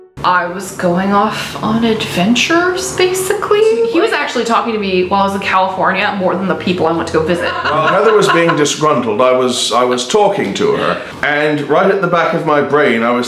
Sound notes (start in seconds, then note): 0.0 soft piano music; 7.3 laughing